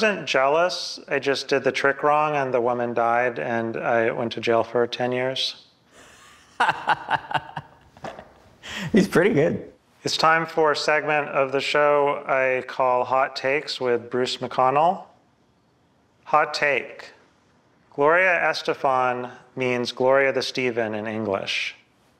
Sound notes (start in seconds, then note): 5.9 hearty laugh